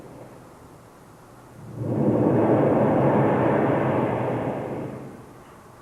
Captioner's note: shri mataji blows into the microphone